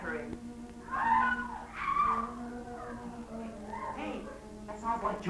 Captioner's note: girls screaming